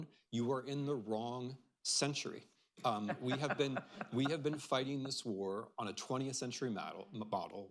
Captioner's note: laughter